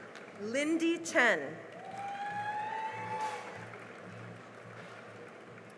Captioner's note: cheering and applause